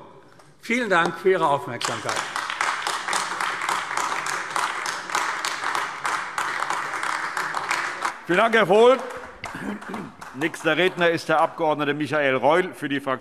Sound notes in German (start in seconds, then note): 3.8 Beifall AfD